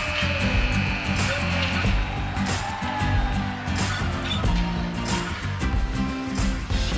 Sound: buzzing

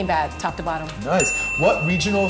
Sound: bell dinging

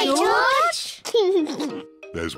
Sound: laughs

